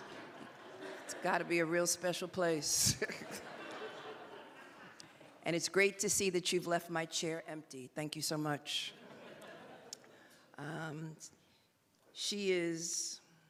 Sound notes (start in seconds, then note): 5.6 laughter